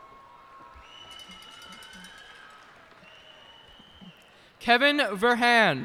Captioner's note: cheers and applause